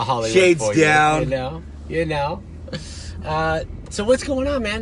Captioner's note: laughs